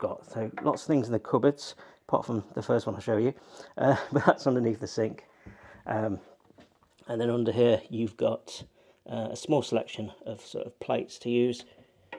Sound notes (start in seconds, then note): 3.8 laughs